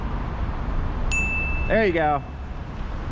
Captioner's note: ding